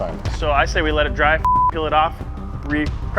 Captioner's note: beep